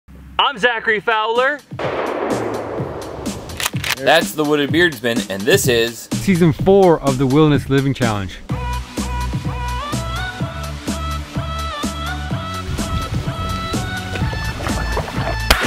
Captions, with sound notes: - I'm Zachary Fowler (gun firing) (rifle cocking) That's the wooded beardsman, and this is - Season four of the Wilderness Living Challenge. (upbeat music)